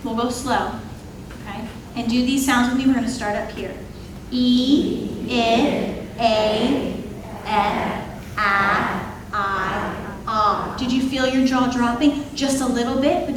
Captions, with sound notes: We'll go slow, okay? And do these sounds with me, we're gonna start up here. (attendees imitating vowel sounds) Did you feel your jaw dropping, just a little bit?